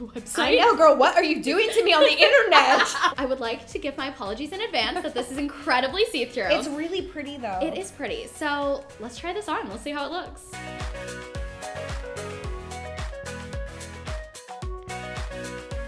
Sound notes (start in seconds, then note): 1.6 laughing; 10.6 cheerful music